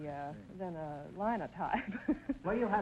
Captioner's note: laughing